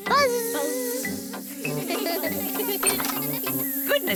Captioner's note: all laugh